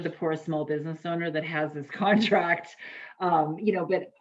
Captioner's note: laughs